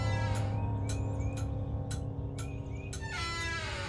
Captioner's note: door opening; clock ticking